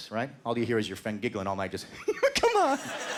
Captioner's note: giggling